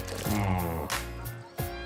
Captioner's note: groaning